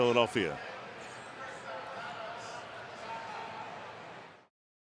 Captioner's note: pa announcement